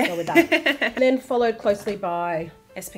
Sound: host laughs

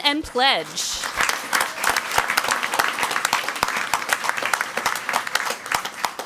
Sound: crowd clapping and cheering

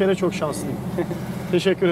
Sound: laughings

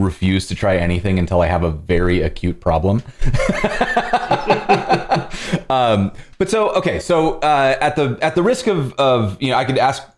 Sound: laughter

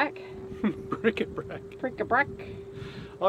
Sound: laughs

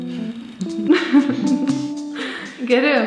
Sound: laughing

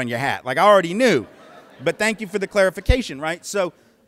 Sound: laughter

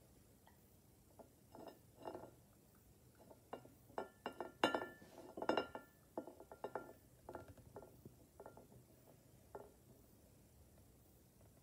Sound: bowl rolling on table and clinking against plate

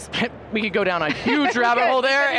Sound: laughs

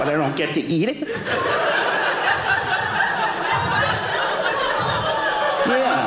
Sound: audience laughing

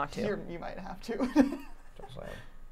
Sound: laughing

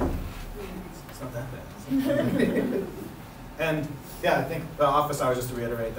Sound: laughter

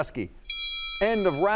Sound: bell ringing

